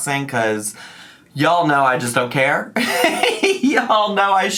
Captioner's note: laughs